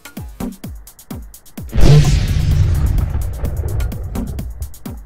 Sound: overly-dramatic explosion

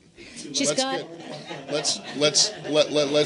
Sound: laughter

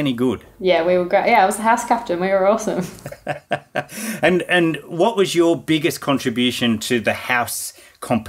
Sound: laughing

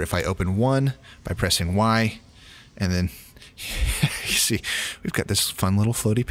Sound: laughs

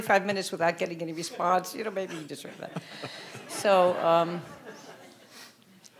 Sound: audience laughing

